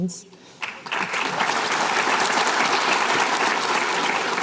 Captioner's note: applause